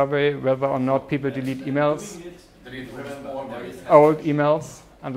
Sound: random chattering

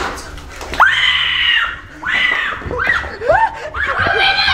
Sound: screaming

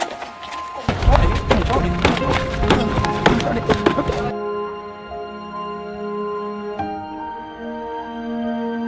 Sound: inaudible beating

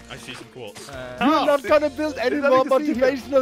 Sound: everyone fussing

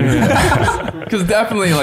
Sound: chuckles

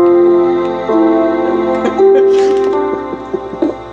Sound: game music and sound; laughs; game music and sound

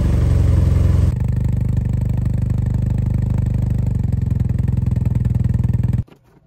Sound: engine running

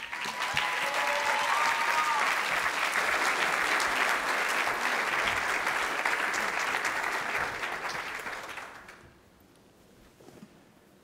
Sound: applause

